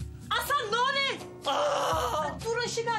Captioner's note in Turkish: Bağırıyor